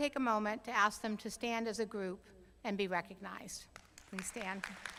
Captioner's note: applause